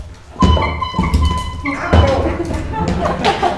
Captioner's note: horn tooting